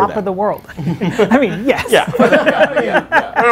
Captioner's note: laughing